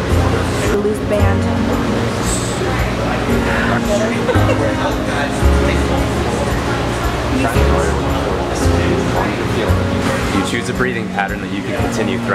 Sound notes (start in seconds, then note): 6.1 laughs